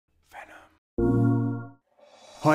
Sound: whispered

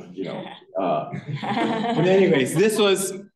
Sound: laughter

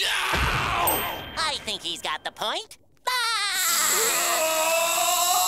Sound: screaming; laughing

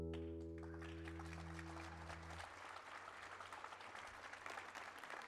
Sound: applause

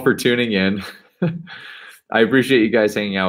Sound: laughing

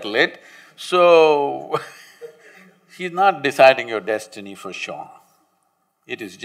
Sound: laughs

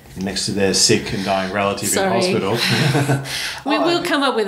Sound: laughs

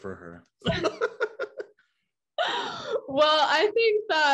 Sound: laughing

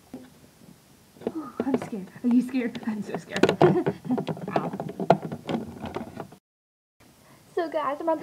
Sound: nervous laugh

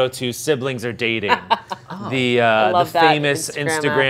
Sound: laughs

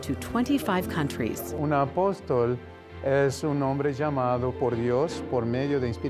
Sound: speaks Spanish

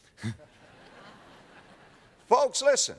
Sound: audience laughter

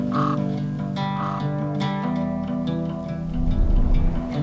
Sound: birds cawing

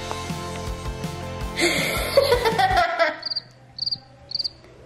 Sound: laughs; chirp sound

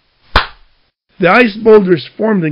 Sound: pow

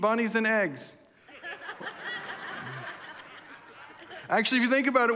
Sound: congregation laughs

